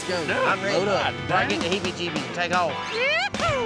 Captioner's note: chattering